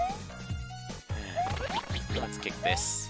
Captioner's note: sigh